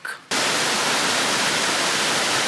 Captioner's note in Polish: szum wodospadu